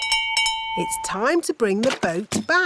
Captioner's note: bell rings